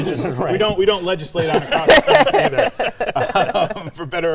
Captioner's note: laughing